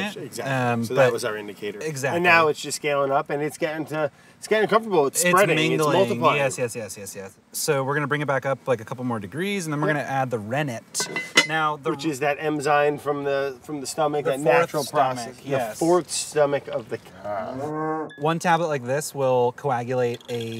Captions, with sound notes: - Exactly so that was our indicator. - Exactly. - Now it's just scaling up and it's getting to, it's getting comfortable, it's spreading - Its mingling it's multiplying - Yes, yes, yes, yes, yes. So we're gonna bring it back up like a couple more degrees and then we're going to add the rennet now. - Which is that enzyme from the from the stomach - The natural process, yes - The fourth stomach of the cow [cow mooing] - One tablet like this will coagulate a gallon of milk,